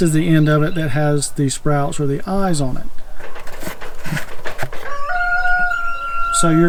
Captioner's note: rooster crows